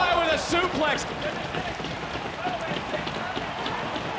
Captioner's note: crowd cheers